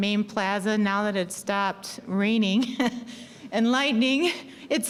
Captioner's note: laughing